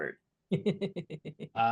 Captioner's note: laughs